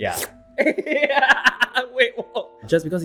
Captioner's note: both laughs